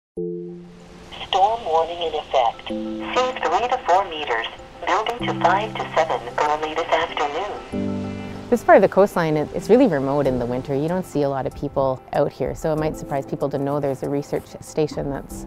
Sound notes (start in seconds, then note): 1.2 computer voice